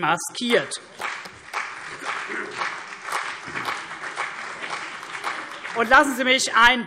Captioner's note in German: Beifall CDU und BÜNDNIS 90/DIE GRÜNEN